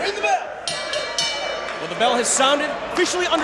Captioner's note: bell rings